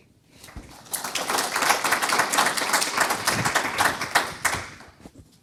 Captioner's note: audience applause